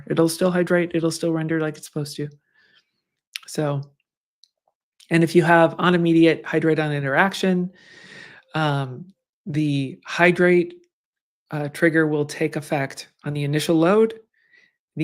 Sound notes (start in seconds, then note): none